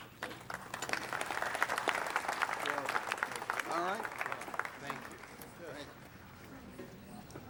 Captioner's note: applaud